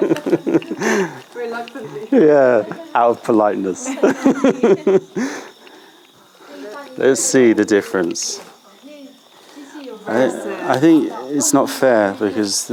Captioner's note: laughter